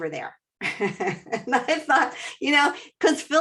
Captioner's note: laughs